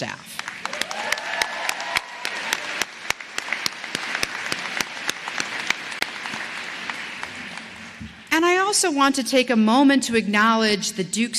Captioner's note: applause